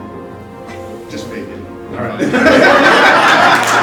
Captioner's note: laughing